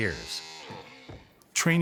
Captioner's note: whirling sound